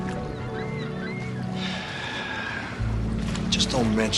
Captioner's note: Въздишки